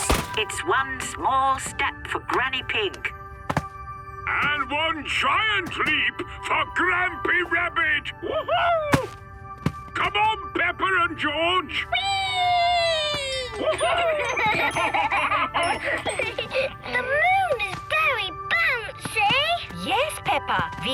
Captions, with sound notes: - It's one small step for Granny Pig... - And one giant leap for Grampy Rabbit! Woohoo! Come on, Peppa and George! - Weeeeeee! - (laughing) - The moon is very bouncy! - Yes, Peppa!